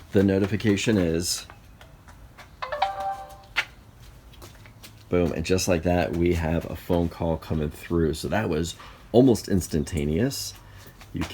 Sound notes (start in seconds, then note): 2.6 alert dings